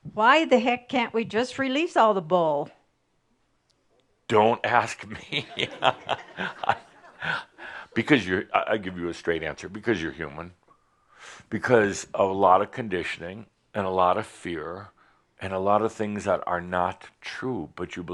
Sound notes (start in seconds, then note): 5.1 Adamus laughs